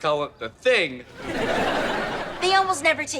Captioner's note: audience laughter